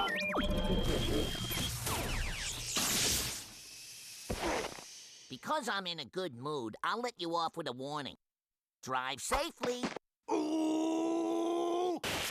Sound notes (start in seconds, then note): 0.0 beeping; 10.3 grunting